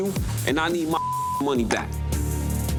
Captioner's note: beep